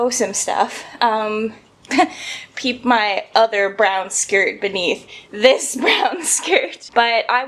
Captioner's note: laughs